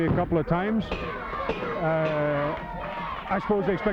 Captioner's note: bell ringing